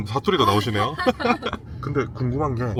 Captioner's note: laughs